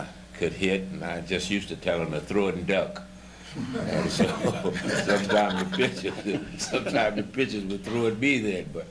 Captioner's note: laughter